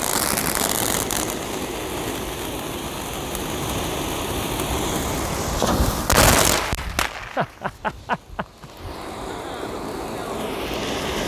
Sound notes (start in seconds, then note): 6.2 fireworks exploding; 7.2 laughing